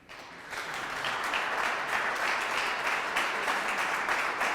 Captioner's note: audience clapping